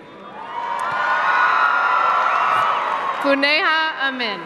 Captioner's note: cheers and applause